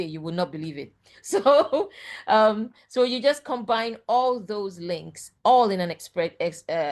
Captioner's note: chuckles